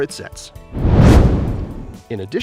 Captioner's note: meteor swishes